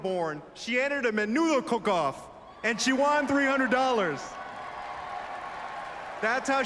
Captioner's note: applause